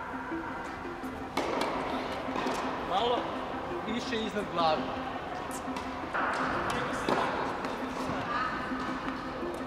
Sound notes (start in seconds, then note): 0.2 soft electronic music; 3.0 speaks in foreign language